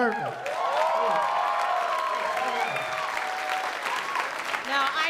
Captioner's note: cheering; applause